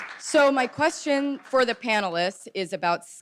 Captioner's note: audience clapping